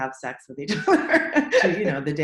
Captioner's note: laughs